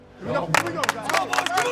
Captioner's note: team claps